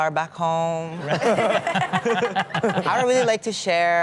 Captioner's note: audience laughing